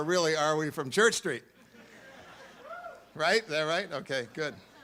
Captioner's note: audience laughs